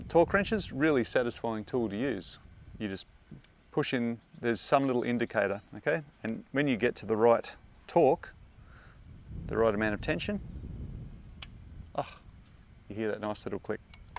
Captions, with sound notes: Torque wrench's a really satisfying tool to use. You just push in, there's some little indicator, and when you get to the right torque, the right amount of tension, (click). Ah, you hear that nice little click.